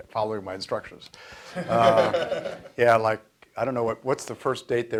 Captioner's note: audience laughs